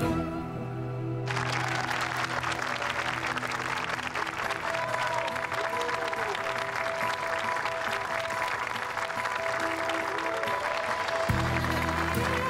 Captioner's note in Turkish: Alkış sesi